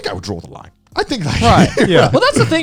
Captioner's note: chuckling